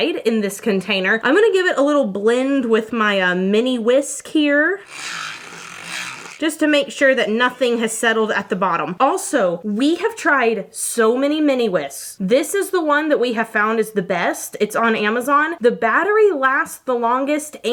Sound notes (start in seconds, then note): 4.8 mini whisk roaring